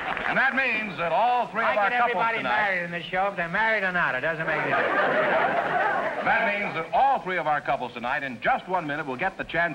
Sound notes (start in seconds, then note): 4.4 audience laughter